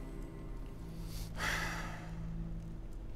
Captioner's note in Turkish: Nefes sesi